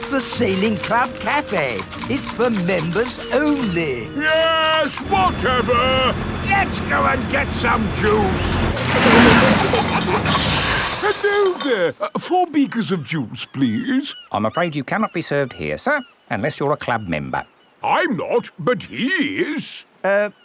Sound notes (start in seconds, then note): 8.7 peppa and george giggling; 9.2 air hisses